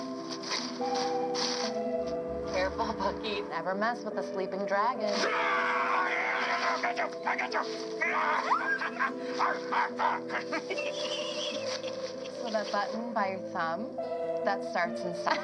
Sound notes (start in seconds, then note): 0.1 leaves crunching; 5.3 walter yelling; 8.0 bucky screeching; 8.1 walter barking; 8.6 walter chuckling